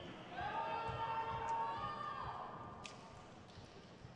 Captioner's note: crowd cheers